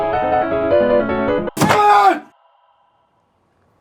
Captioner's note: yells